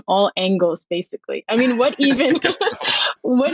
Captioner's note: laughs